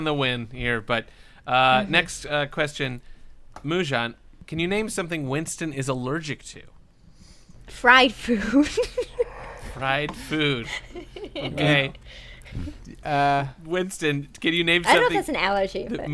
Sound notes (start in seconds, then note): 8.4 laughter